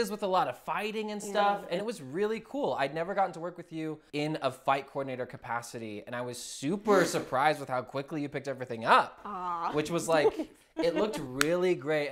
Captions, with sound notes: with a lot of fighting and stuff. And it was really cool. I'd never gotten to work with you in a fight coordinator capacity. And I was super surprised with how quickly you picked everything up. - Aaw. (laughs) - Which was like, it looked really great.